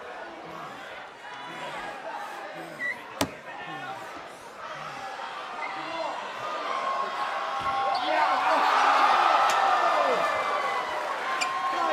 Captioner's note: cheers and applause